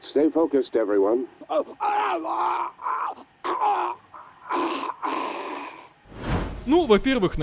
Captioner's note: screaming